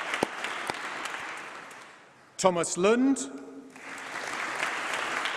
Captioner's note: applause